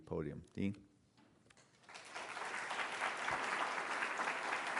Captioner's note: applause